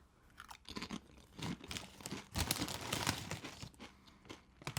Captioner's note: crunching potato chips